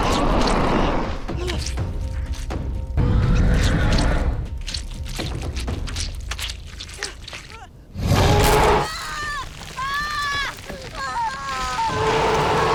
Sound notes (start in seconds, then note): 0.1 shark roaring; 3.6 shark growling; 4.5 flesh squishing; 8.2 Paige screaming; 8.3 shark roaring; 8.9 teeth crunching